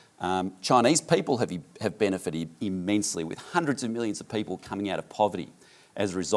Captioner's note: none